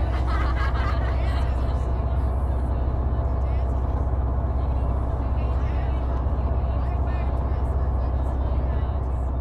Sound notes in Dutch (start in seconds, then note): 0.0 laughter; 3.8 background chatter